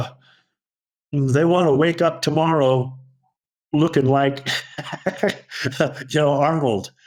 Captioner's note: laughs